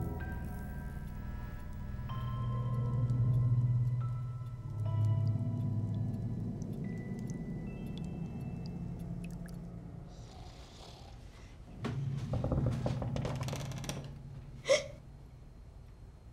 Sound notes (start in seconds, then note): 0.2 lights buzzing; 5.9 milk dripping; 10.2 father snores, gently; 11.7 floorboards creak; 14.6 Alice gasps